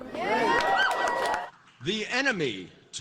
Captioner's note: cheering